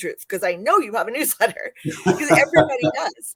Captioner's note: laughter